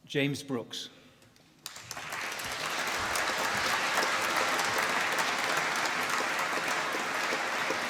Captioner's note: applause